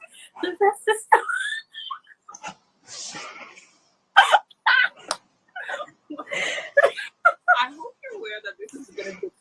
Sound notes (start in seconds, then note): 3.8 laughs